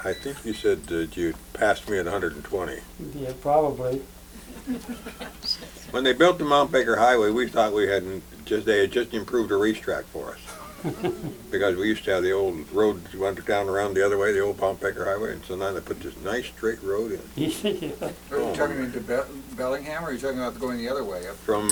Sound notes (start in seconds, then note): 4.4 laughter; 10.4 laughter; 17.3 laughs